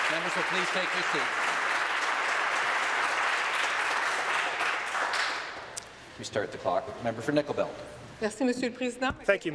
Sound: applause

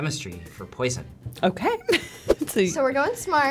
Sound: chuckles

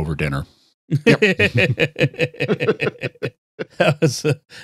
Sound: laughing

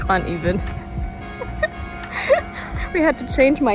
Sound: laugh

